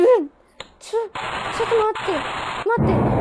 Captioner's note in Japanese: バチバチ…; ドォォォン！